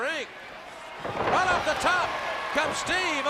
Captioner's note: crowd cheering